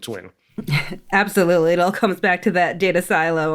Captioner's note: chuckles